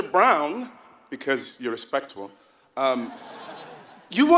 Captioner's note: laugh